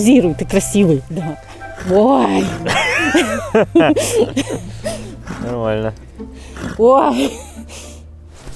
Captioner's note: gaps of amazement and laughter